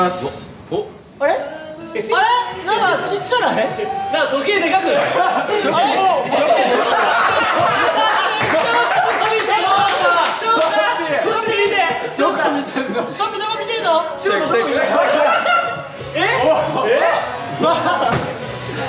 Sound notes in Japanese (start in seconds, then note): 6.6 笑い